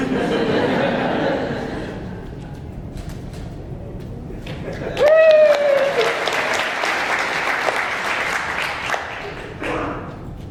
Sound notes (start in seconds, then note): 0.0 audience laughing; 4.7 audience applauding